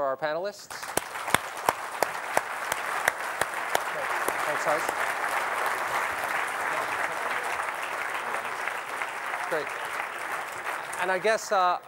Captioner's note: applause